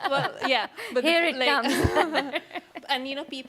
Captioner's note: laughs